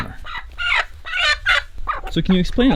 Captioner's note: chicken clucking